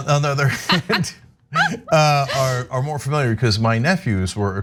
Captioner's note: laugh